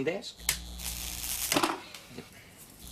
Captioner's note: static buzzing